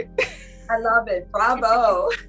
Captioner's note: laughs